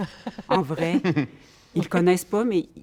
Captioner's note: laughter